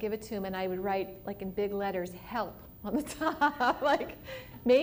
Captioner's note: laughter